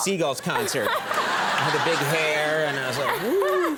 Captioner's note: audience laughing